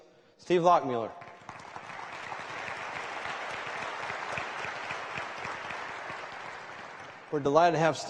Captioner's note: applause